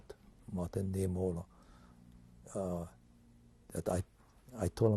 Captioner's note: pauses for 3 seconds